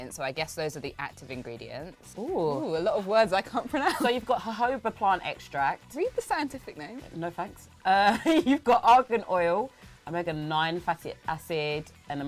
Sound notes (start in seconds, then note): 7.9 laughs